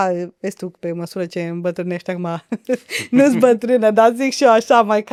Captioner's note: laughter